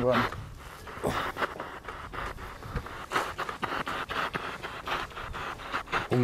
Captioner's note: radio noise from the spirit box